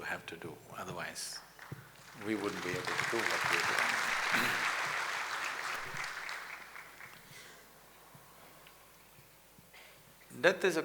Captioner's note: applause